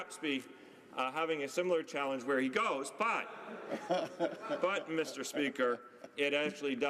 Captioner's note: laughter